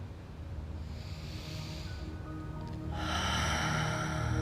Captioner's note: breathing deeply